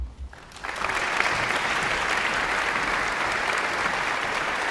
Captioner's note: audience applauds